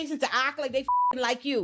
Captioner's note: beep